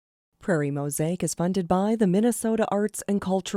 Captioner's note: voiceover